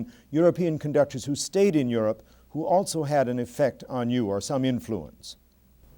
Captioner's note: none